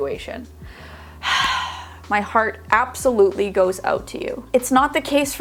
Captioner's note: sighing